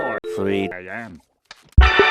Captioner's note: click